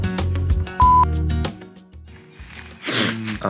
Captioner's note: mellow music; beep